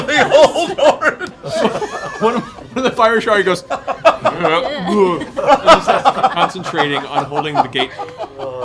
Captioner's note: cringing, gagging